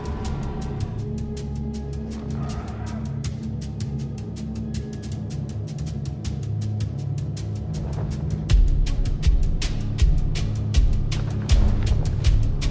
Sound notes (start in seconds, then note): 0.0 dragon growls